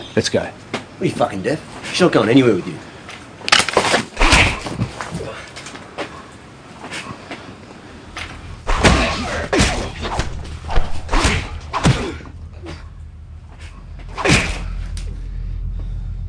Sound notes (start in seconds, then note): 4.2 thudding blow; 8.1 thudding blows